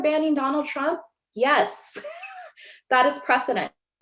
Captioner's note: chuckles